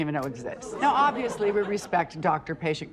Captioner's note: laughter